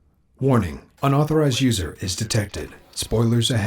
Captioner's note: voiceover